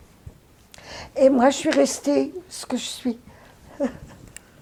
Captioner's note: laughing